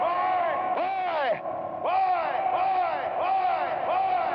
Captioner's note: echoing